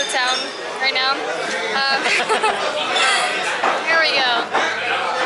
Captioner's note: laughter